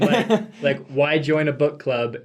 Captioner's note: laughs